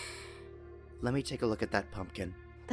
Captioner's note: sigh